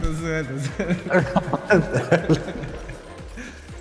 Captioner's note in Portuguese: risos